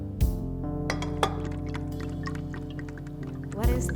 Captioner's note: bottle clinks; Everclear trickling